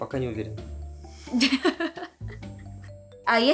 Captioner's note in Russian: смех